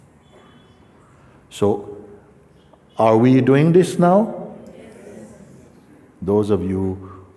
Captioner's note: voices in audience